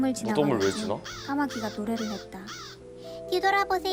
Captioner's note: the crow sang